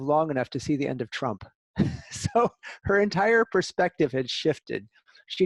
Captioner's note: laughter